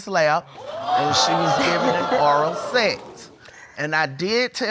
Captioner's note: audience exclaiming